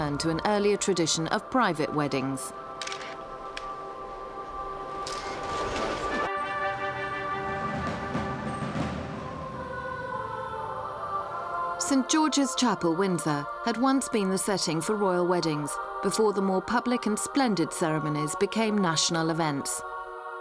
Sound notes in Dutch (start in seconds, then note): 2.8 sluiter van de camera klikt